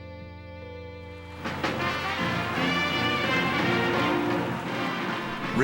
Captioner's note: audience applauding, marching band playing